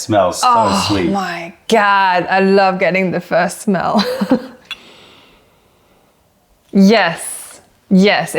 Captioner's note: laughter